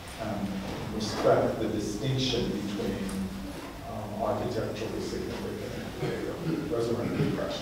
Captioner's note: murmurs